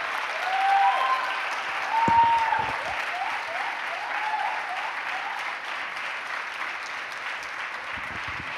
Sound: applause and verbal approval; applause continues as people come on stage

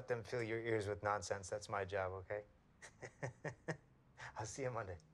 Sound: laughs

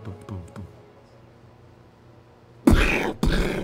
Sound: mimics footsteps; mimics loud crash

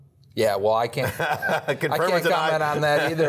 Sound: laughing

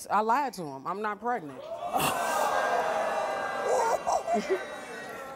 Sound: audience gasping

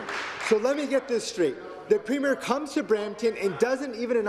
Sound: applause

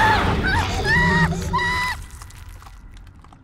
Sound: screaming; dramatic music; flesh squishing

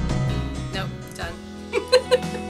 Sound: laughs

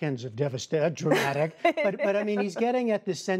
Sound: laughter

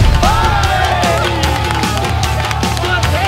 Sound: japanese instrument playing; applauding; cheering

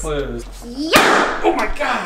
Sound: startling pop

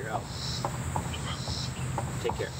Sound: on phone

